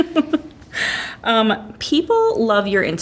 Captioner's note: laughs